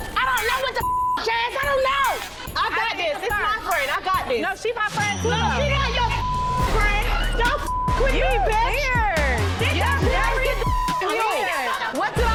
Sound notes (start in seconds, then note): 0.8 beep; 5.6 beep